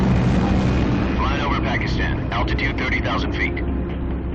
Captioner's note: radio voice